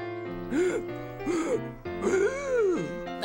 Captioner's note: inhales and holds breath